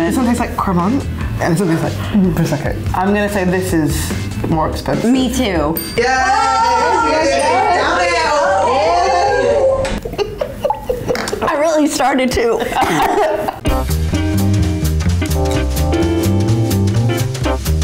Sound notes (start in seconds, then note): 6.0 yelling in celebration; 8.8 laughing; 13.6 quiet jazz